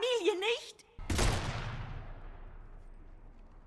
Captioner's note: bang